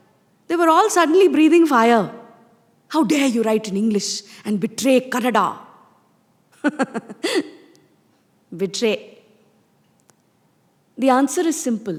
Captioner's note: laughs